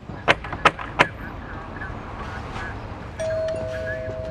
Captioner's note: knocker tapping; bell ringing